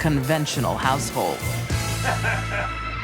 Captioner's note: laughs